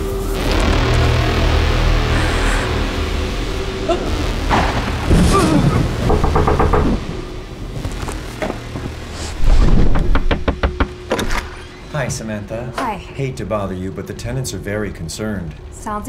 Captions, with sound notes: (eerie music) Oh! (gags) (thunder cracking) (loud knocking) - Hi, Samantha. - Hi. - Hate to bother you, but the tenants are very concerned.